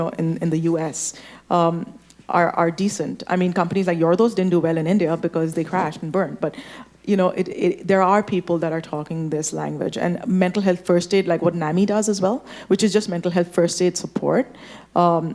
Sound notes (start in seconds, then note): none